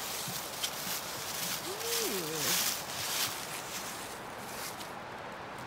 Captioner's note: crunching leaves